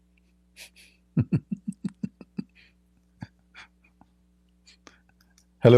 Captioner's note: Ketawa